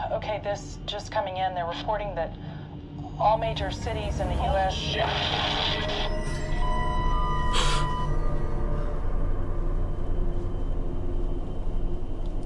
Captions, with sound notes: Okay, this just coming in, they're reporting that all major cities in the US- - Oh shit! (explosion booming) (cellphone beeping)